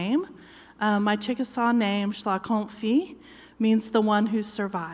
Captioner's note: foreign language